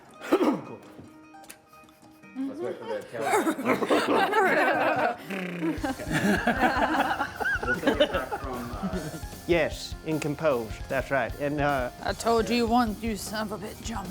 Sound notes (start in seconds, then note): 0.1 Caleb coughing; 3.0 all coughing